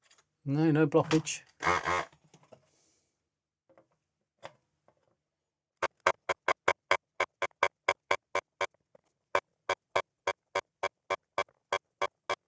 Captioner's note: buzzer